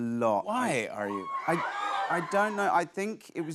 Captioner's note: audience cheers